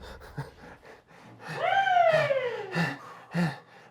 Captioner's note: panting